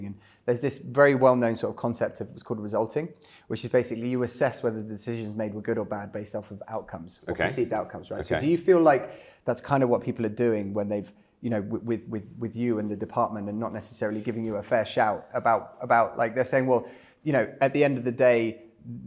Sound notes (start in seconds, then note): none